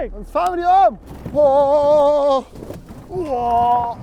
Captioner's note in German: erschrockenes Johlen